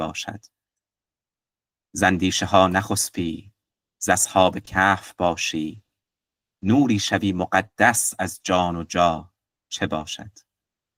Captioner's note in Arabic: قراءة الأبيات بالفارسية